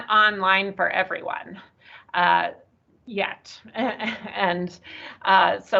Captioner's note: chuckles